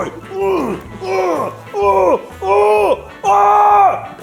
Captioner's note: grunting